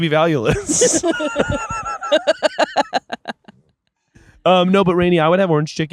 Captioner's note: laughing